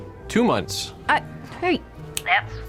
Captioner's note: snaps fingers